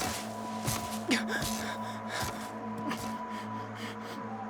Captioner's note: heavy breathing